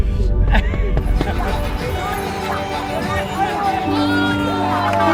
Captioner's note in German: Menschen jubeln